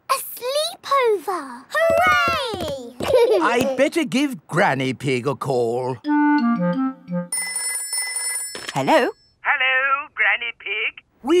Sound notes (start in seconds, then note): 7.3 telephone ringing